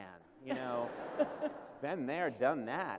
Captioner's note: laughter